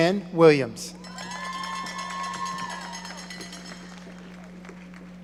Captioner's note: audience applauding